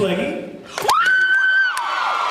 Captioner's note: cheers